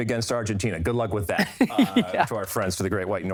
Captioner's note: laughs